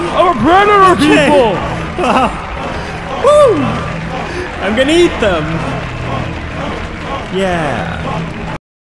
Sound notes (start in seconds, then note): 5.4 crowd chanting